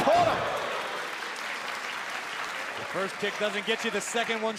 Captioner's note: crowd cheering